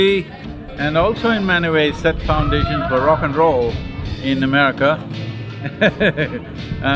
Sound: laughs

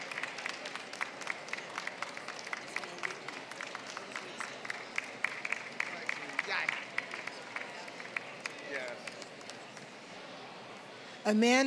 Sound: applause

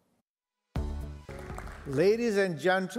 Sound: upbeat music; audience applauding

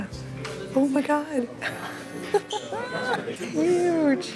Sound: laughs

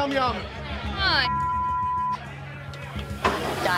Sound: beep

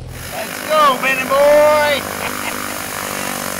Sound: laughs

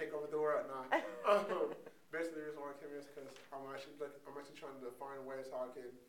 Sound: laughs

